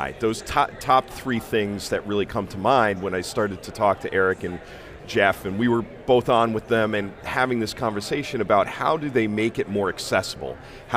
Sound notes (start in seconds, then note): none